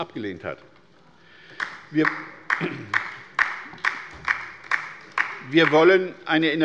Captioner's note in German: Beifall bei der LINKEN